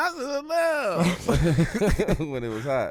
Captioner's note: laughing